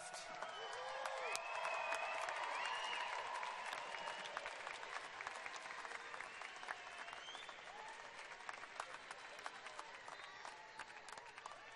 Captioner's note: loud cheers and applause